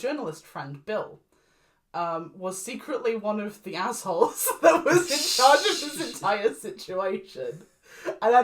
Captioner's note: begins laughing